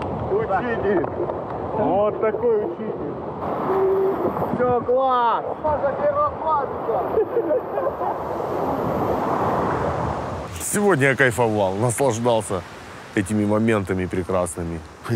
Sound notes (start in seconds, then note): 6.9 everyone laughing